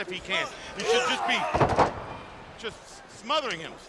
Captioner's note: mat thumping